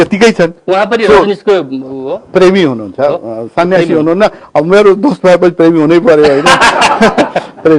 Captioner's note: laughs